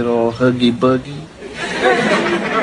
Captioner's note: laughter